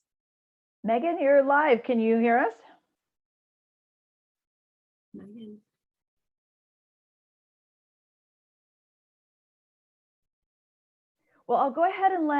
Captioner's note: no audible dialogue